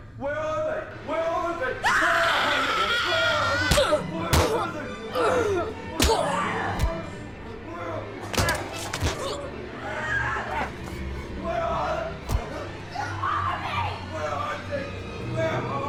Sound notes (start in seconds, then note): 1.9 Abby screams; 1.9 intruder punches; 4.2 Abby screams; 4.2 intruder yells and punches; 8.3 Abby gurgles